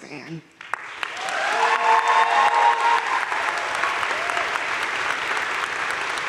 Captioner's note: audience cheering and applauding